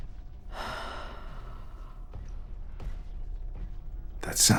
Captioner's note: sigh